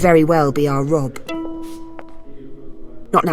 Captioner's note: footsteps. a lute being tuned